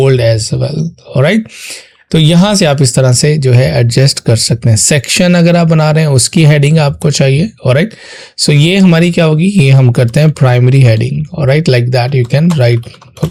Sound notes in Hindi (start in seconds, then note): 2.3 नाक से की जाने वाली आवाज़